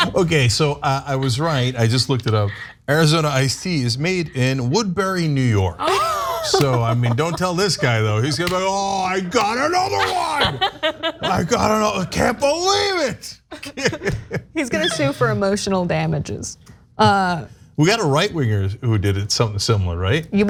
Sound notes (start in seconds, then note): 13.5 laugh